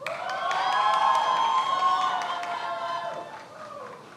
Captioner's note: many applauding